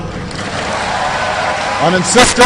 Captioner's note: applause